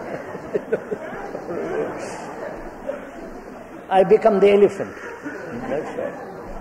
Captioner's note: laughter